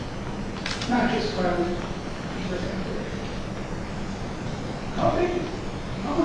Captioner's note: speaking softly